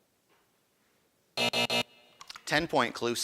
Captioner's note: buzzing